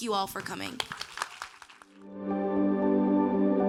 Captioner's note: audience applauding; soft bright music